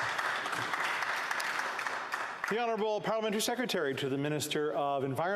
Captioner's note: applause